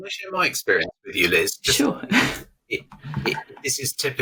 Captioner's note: chuckles